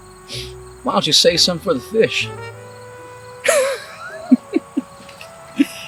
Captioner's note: laughing